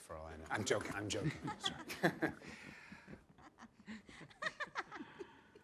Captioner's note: group laughing; Cricket and Angela laughing